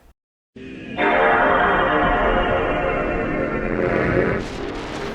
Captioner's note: PlayStation 2 startup intro